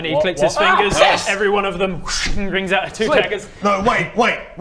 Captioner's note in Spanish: ¡chhhing!